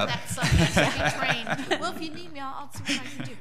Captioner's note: laughing